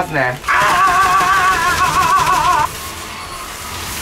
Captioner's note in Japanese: 奇声